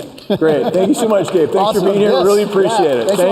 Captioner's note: applause